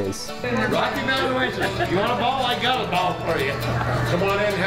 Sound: indistinct chatters

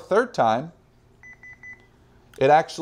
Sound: three beeps

